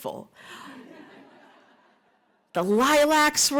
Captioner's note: laughter